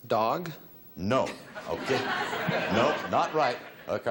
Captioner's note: audience laughs